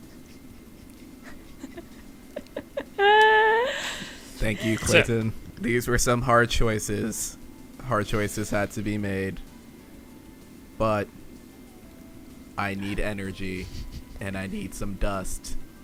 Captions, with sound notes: (laughs) - Thank you, Clinton. These were some hard choices. Hard choices had to be made, but I need energy, and I need some dust,